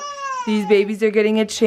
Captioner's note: baby crying